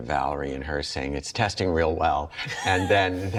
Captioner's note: laughs